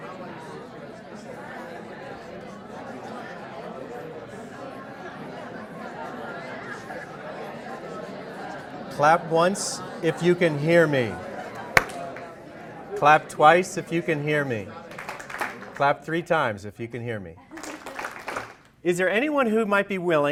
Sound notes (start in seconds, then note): 11.5 clap